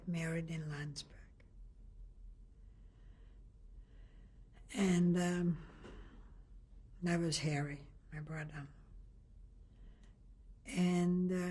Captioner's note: pauses for 3 seconds